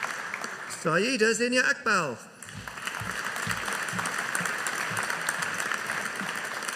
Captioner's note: audience applauding